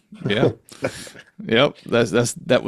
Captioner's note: laughing